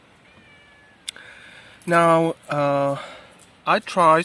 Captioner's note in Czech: přátelské kočičí mňouknutí